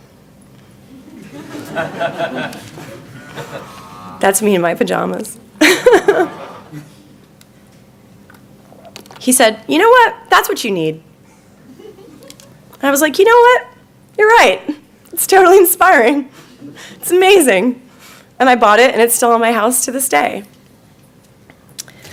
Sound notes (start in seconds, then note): 1.0 audience laughing; 5.6 laughing